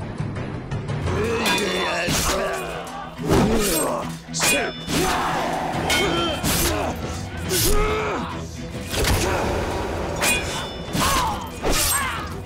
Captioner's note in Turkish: Kılıç ve dövüş sesleri